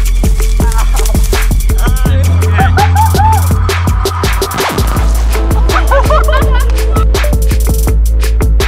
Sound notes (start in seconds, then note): 1.6 cheering; 5.4 laughing